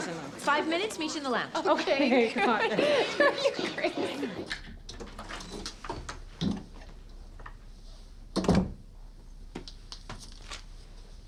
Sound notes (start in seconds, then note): 1.7 laughing